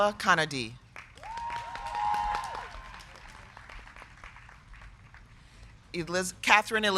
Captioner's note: crowd clapping; crowd cheering